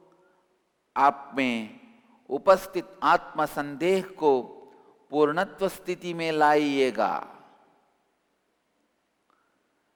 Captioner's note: hindi